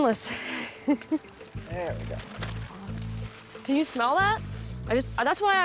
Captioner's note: laughing